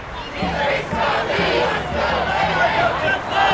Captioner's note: crowd